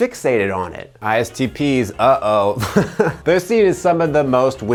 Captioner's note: chuckles